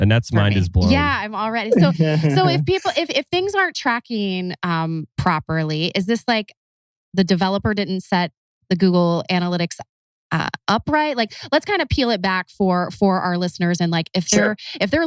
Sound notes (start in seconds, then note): 1.6 laughs